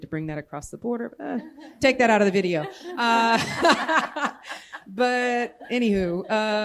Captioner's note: laughter